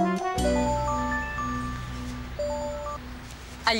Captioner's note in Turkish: Telefon çalıyor